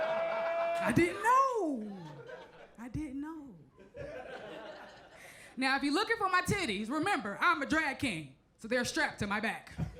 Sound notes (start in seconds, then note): 3.9 crowd chuckles